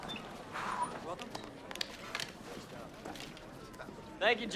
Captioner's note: indistinct conversation